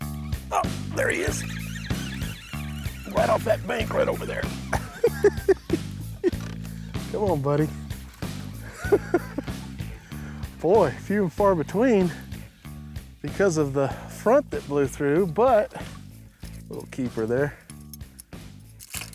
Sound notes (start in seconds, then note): 4.1 laughing; 8.1 laughs